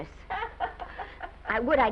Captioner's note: Mattie laughs